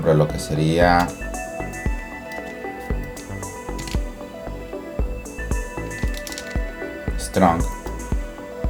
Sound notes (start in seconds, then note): 1.5 typing